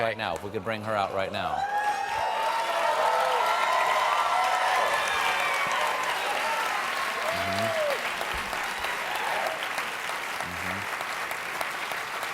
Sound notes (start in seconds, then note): 1.4 cheers and applause